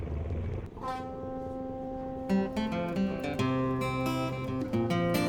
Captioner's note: ship horn blowing; guitar music plays